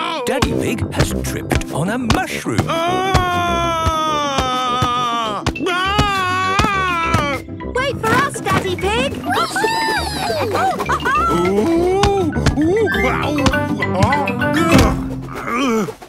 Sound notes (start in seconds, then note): 2.6 shouting; 9.2 laughing